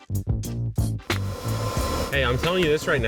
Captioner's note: DEWALT machine blowing